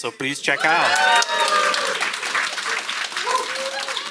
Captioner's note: audience cheers